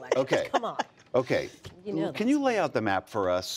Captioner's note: laughter